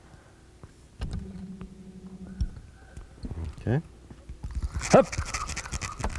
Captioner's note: trolling motor noise